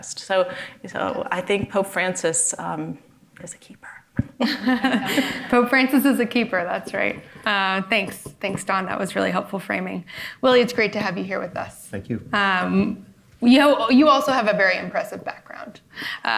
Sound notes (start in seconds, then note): 4.4 audience and panel laughing